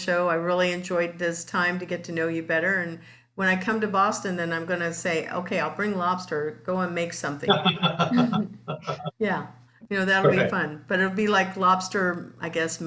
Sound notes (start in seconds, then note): 7.4 laughs